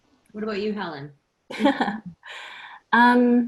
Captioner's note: O.S. Laughter